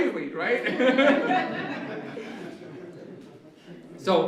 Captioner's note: laughter